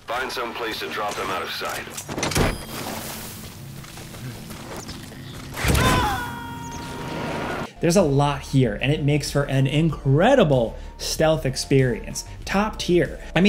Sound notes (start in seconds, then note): 5.6 enemy screaming